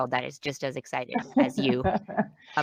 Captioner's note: laughs